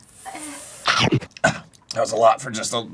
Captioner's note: arin chokes a little